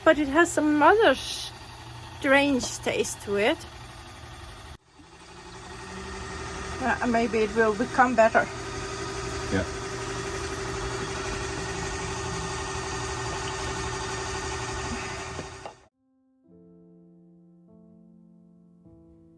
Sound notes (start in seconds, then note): 8.4 sound of the watermaker